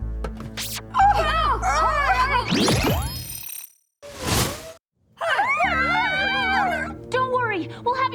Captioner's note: muffled grunting